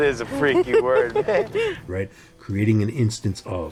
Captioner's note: laughter